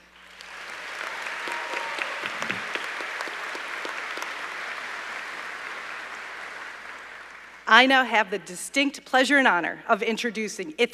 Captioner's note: applause